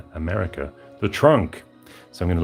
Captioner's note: American accent